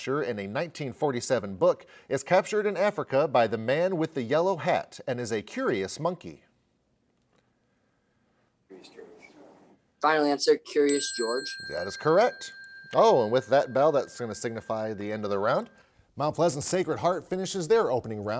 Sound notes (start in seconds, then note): 10.8 bell chimes